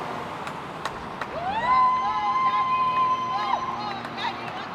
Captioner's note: loud cheering